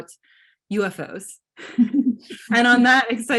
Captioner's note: participants laugh